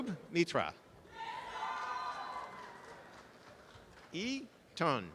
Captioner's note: audience applause